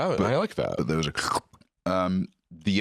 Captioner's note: squelch